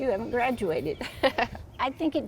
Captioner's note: chuckles